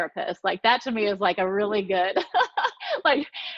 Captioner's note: laughing